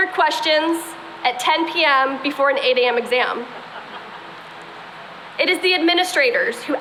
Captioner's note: laughter